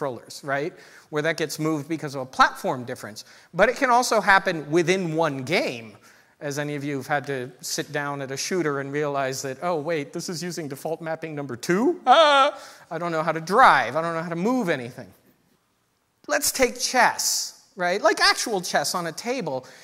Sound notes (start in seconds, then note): 12.5 gasp